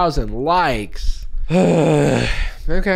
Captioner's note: sighs